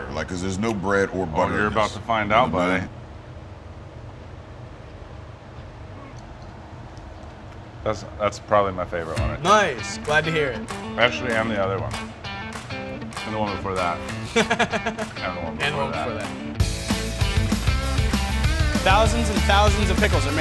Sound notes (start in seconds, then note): 14.1 laughter